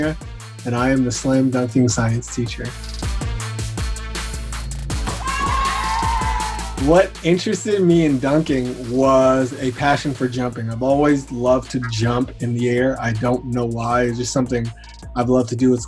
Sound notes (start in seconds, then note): 3.3 rap music; 5.0 students cheering